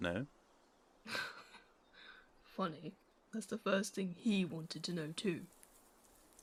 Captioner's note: James laughs dryly